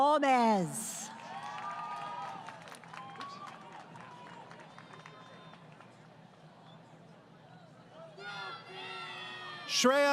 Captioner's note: crowd Cheering